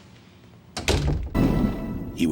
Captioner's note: door opening; door shutting